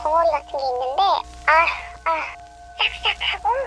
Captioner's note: sigh